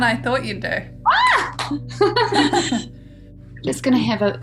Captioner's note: laughing; clapping